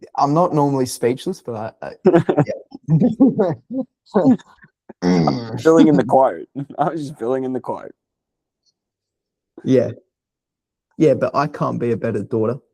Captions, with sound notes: I'm not normally speechless, but I-- (Laughing) I'm spilling in the quote. I was spilling in the quote. Yeah. Yeah, but I can't be a better daughter.